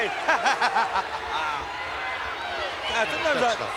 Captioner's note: laughing